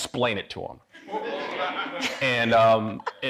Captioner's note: audience laughing